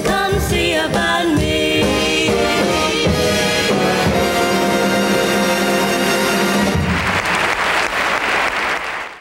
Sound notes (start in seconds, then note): 6.2 audience applauding